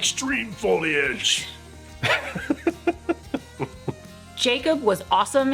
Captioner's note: laughing